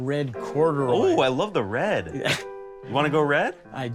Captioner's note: laughs